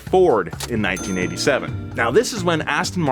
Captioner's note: cash register pings